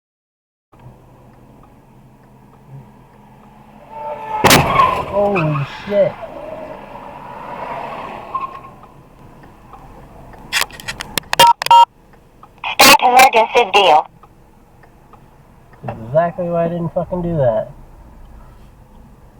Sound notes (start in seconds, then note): 2.7 loud Distant Horn Honking; 4.0 loud Audible Crash